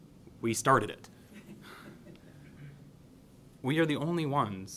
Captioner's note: laughs